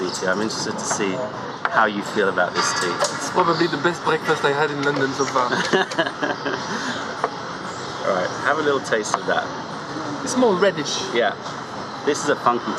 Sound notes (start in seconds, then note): 5.4 laughter